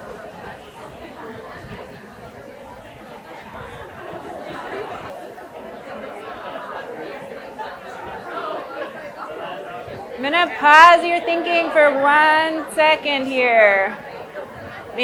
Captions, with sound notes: (people chattering) I'm going to pause your thinking for one second here, maybe.